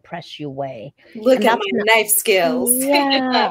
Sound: laughing

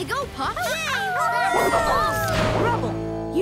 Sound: cheering

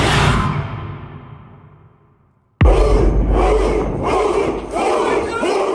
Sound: yelling

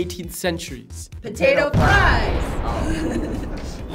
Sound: bomb exploding; laughing

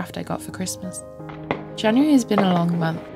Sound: firework bangs on NYE

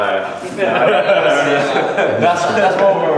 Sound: laughing

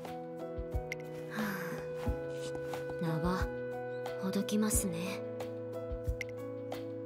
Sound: sigh

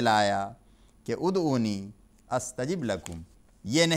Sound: Arabic

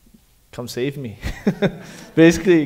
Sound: chuckles

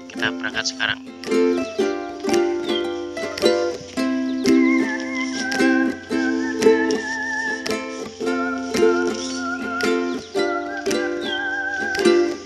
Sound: cicada sound

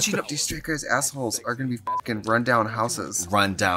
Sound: beep

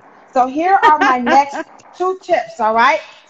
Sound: laughing

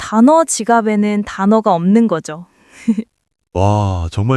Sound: laughs

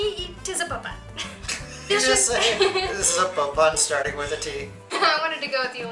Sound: laughter

